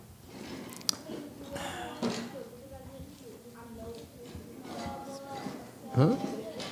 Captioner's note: clears throat